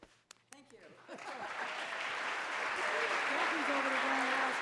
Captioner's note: audience applauding